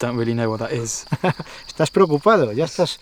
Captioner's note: chuckles